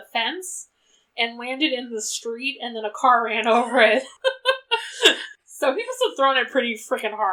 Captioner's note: laughs